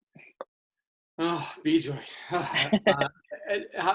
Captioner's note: chuckles; sighs; laughing loudly